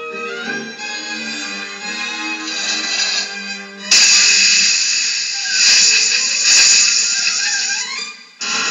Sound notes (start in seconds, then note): 3.9 pops